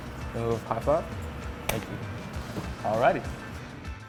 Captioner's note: hands slap